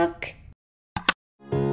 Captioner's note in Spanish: ¡Clic!